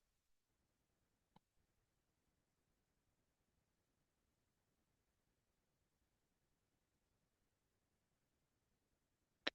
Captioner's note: audio cuts out